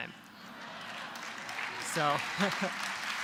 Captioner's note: applause